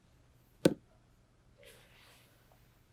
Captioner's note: sound of ball falling